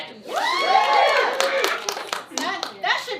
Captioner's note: cheering